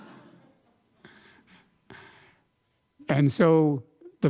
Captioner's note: laughter